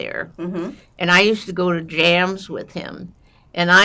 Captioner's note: drinking